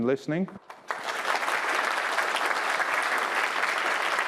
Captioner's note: applause